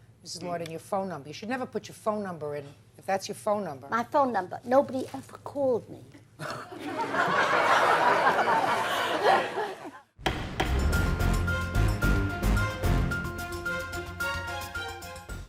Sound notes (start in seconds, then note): 6.6 audience laughs; 10.2 suspenseful upbeat music; 10.3 gavel raps